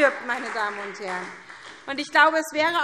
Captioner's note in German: Beifall SPD und vereinzelt Freie Demokraten